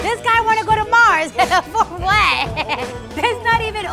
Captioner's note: laughing